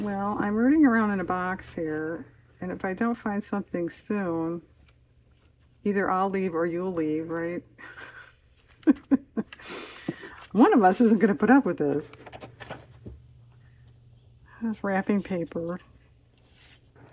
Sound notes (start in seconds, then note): 7.8 laughs